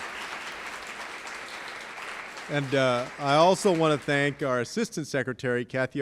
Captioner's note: applause